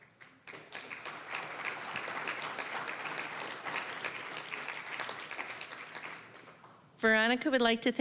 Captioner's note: applause